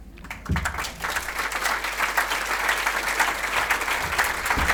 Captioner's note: audience applauding